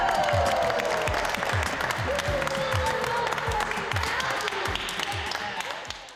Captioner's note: clapping